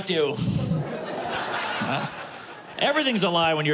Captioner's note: laughter